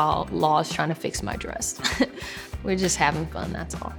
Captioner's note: chuckles